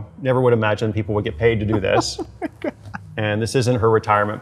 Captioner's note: laughing